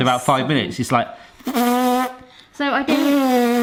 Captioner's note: blows continuous, loud raspberry; blows raspberry